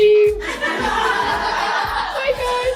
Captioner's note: laughing